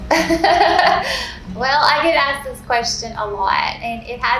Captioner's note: laughing